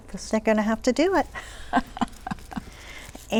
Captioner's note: laughter